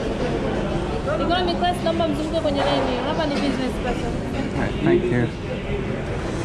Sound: speaks in foreign language

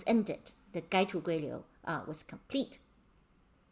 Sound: speaking in Mandarin

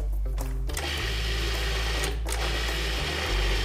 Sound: whirring

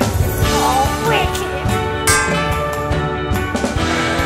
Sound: Clang sound as Dame Dolly punches; Sound of a door creaking as Dame Dolly turns slowly

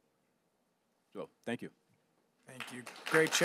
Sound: applasue

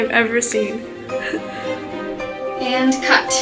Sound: Amber chuckles

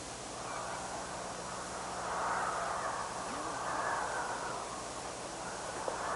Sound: wind whistling

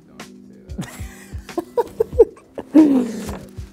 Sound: laughs

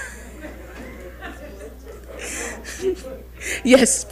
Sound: audience laughing

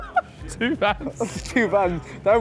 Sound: laughing

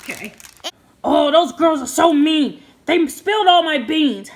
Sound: voiceover

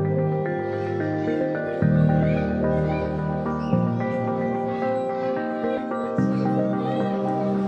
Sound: playground ambiance

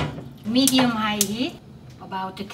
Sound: stove ticks

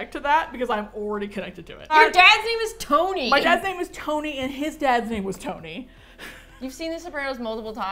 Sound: chuckles

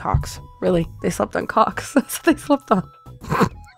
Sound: laughing; laughs

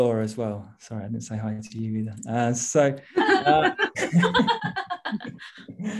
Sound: Panelists laughing

